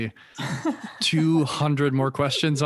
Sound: laughs

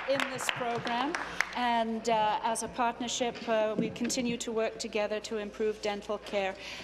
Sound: applause

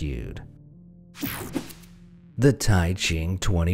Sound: slide swooshing

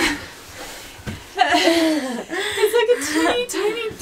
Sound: laughing

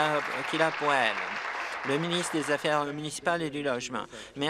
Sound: applause

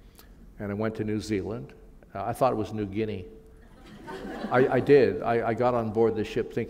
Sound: laughter

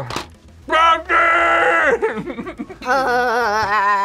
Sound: laughs

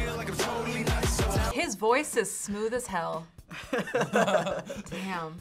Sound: others laugh

